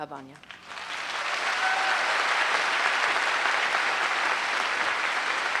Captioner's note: applause